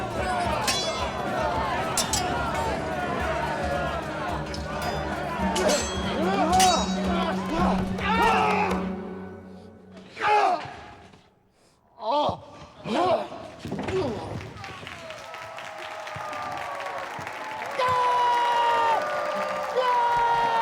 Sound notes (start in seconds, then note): 0.1 crowd shouting; 8.3 screams; 15.8 applause; 17.6 screams